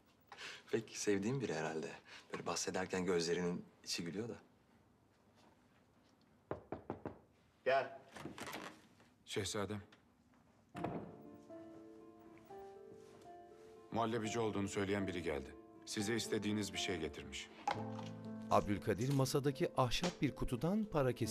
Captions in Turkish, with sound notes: Pek sevdiğin biri herhâlde. Böyle bahsederken gözlerinin içi gülüyor da. (Kapı tıklanma sesi) Gel! Şehzadem. Muhallebici olduğunu söyleyen biri geldi. Size istediğiniz bir şey getirmiş. (Altın kesesi sesi)